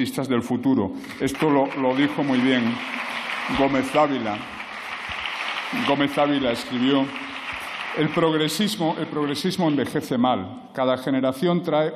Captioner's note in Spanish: Aplausos